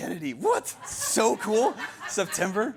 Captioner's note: audience laugihing